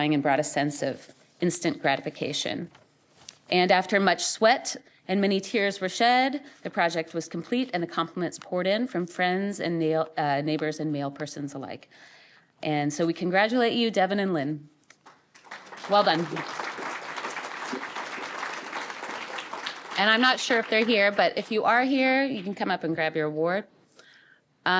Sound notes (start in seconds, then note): 15.0 applause